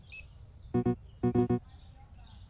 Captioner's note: tablet rejection noises